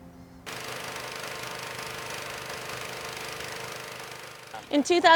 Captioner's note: machine whirring